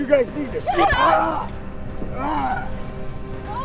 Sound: painful scream

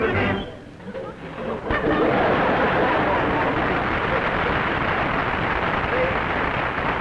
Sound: applause

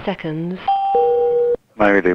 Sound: machine beeps

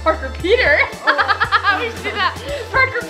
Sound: laughs

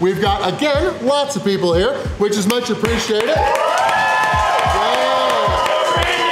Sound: crowd cheering

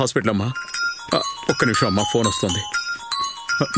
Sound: mobile ringing

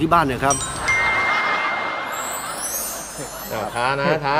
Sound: laughter

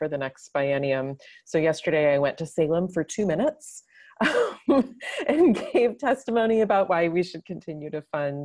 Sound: laughs

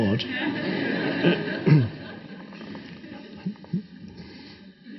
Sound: audience laughing

